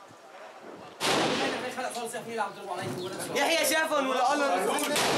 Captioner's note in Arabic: الصوت المنطوق باللغة العربية